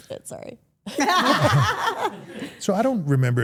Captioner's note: everyone laughs